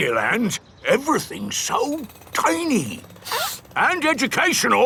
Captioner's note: sniffs